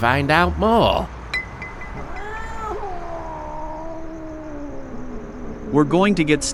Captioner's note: bottle falling over, cat howl